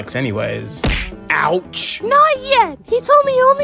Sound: punch sound effect

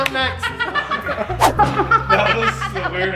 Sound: laughing

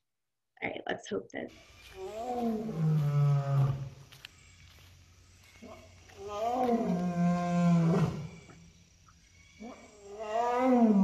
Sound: lion Roar

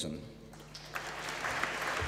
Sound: applause

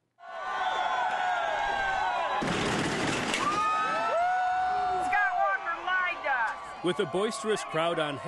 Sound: cheering and applause

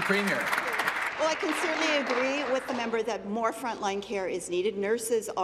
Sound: applause

